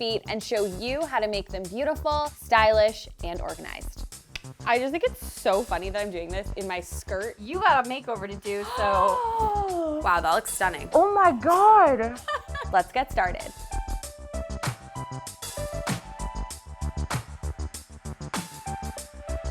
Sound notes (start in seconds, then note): 8.6 gasps; 14.6 upbeat music